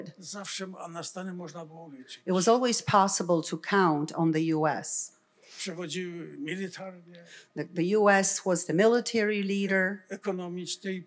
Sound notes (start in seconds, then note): 0.2 foreign language; 5.1 foreign language; 9.9 foreign language